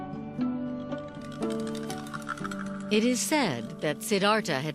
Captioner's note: rattling